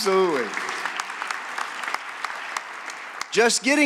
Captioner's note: applause